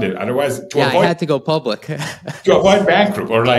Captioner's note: laughs